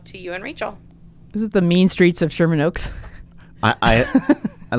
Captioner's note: laughs